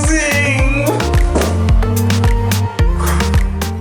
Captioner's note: breaths